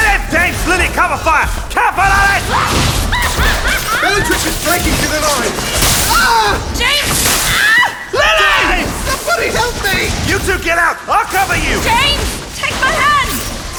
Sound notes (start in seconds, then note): 3.0 Bellatrix manical laughter; 3.2 spell hit